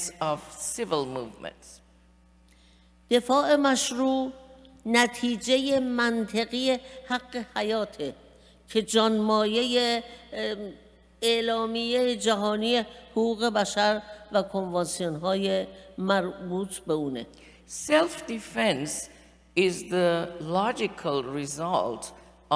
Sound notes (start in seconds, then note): 3.1 speaking persian